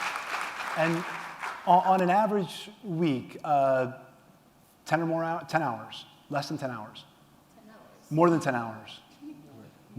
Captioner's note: applause